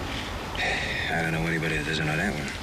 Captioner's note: sighs